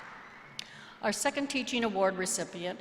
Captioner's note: applause